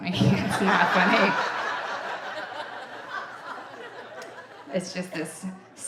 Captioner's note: audience laughing